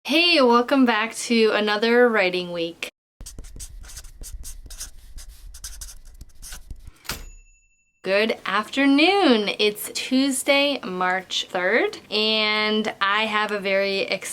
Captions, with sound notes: - Hey welcome back to another writing week. (pencil scribbling) (bell dinging) Good afternoon. It's Tuesday, March 3rd and I have a very exciting